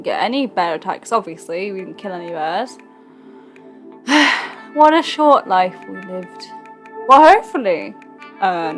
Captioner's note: sighs